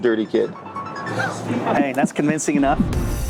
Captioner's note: giggling; upbeat music